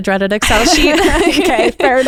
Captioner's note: both laughing